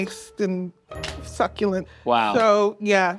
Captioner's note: hands slapping